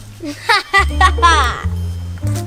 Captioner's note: laughs